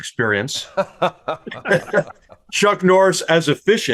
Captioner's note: all laughing